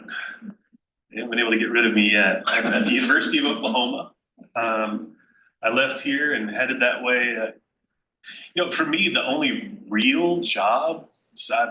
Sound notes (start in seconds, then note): 1.3 laughs